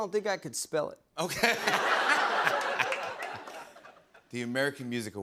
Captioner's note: laughter